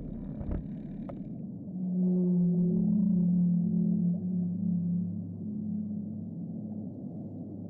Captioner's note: whale songs